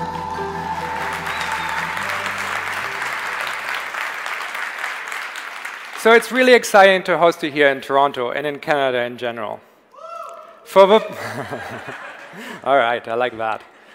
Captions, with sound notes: (audience applause) - So it's really exiting to host you here in Toronto and in Canada, in general. (audience member cheers) (Tobi laughs) (audience laughs) Alright, I like that.